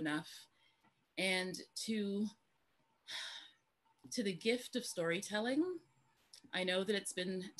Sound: sighs

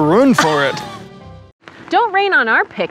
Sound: laughs

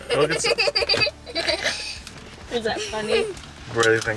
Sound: laughs

